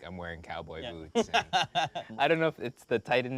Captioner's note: laughs